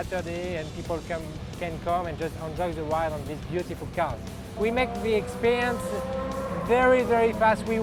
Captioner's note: car whirs